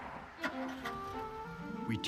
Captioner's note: engine turns over